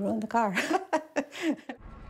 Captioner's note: chuckles